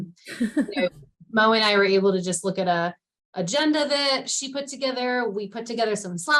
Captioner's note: chuckle